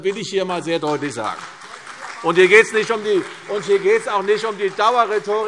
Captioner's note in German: Beifall CDU und BÜNDNIS 90/DIE GRÜNEN - Zurufe DIE LINKE